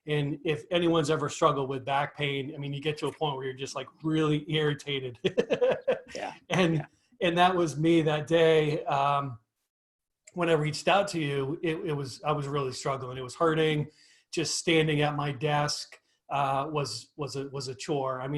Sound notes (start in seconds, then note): 5.2 laughs